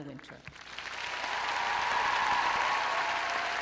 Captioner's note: cheering and applause